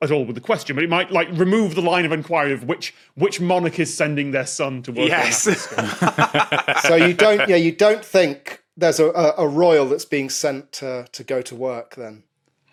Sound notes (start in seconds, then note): 5.0 guests laughing